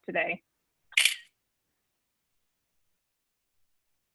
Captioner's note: camera click